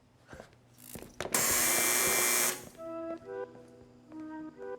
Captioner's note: loud buzzing